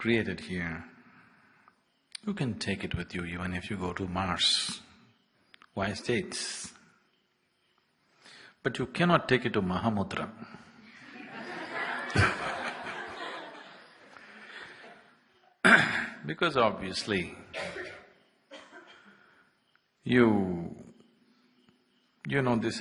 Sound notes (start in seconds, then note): 15.5 laughter